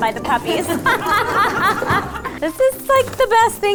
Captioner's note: laughing